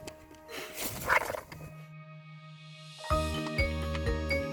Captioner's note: flutters; fun music